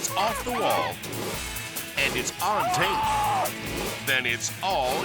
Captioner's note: slippery metal squeaking; person screaming